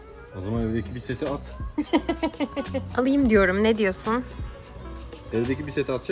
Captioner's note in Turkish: kahkaha